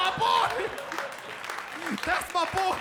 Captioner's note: audience applauding and laughing